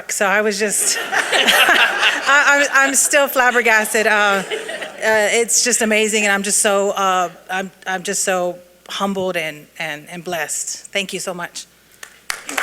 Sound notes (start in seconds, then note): 0.7 audience laughing